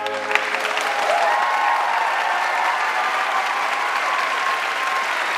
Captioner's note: audience cheering; audience clapping